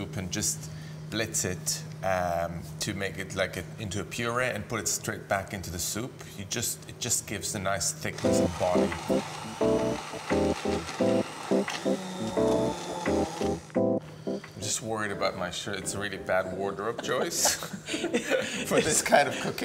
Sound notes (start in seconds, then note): 8.1 blender whizzing; 8.2 upbeat music